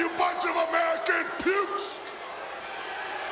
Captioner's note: applause